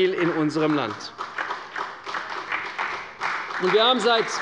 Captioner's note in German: Beifall bei der CDU